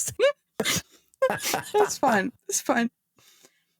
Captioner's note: laughing